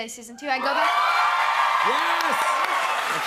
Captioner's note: cheers and applause